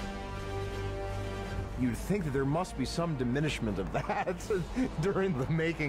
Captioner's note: chuckles